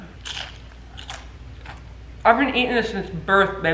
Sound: crunching noise

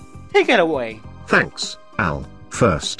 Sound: Text-To-Speech takes over

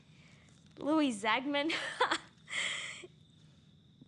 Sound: laughs

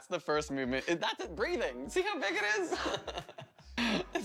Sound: laughter

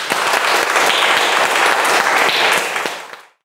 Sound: audience applauds

